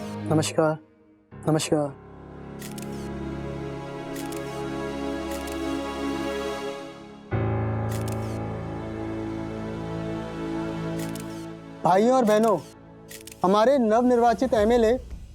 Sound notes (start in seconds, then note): 2.4 clicking sound